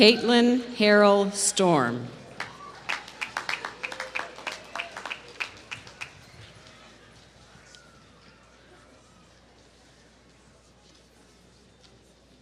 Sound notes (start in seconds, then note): 2.3 applause